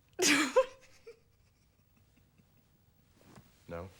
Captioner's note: laughs